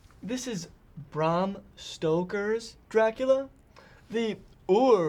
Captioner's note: haughtily